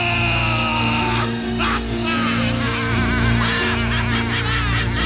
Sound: laughs

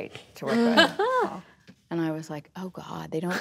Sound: laughter

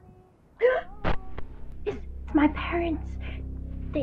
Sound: Tyler gasps

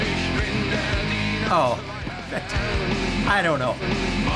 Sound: chuckles

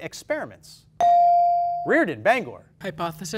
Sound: ding

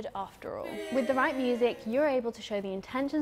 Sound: crowd

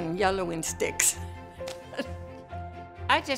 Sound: laughs

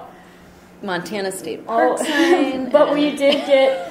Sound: voiceover

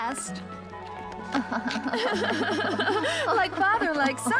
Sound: laughing

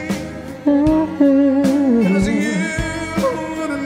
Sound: hums along

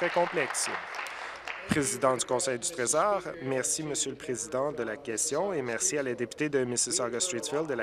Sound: applause

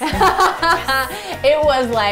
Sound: laughing

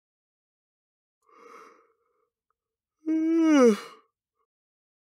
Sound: sound of yawn

